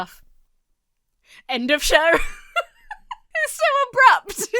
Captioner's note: laughs